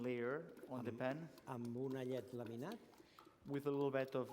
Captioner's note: non-english speech